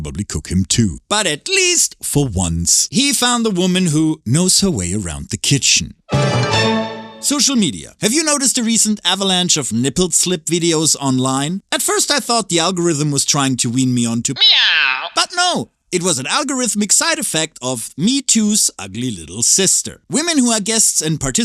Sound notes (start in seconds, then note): 14.4 meow